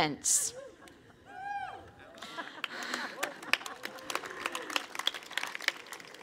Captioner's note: cheering/Applause